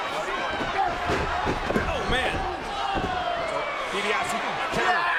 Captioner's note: footsteps plodding; DiBiase yelling